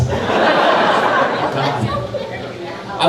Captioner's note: crowd laughing